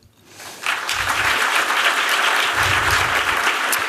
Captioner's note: applause